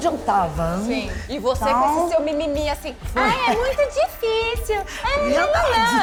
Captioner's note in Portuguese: voz aguda